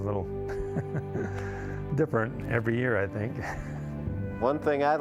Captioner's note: laughing